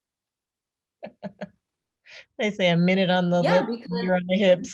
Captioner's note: laughs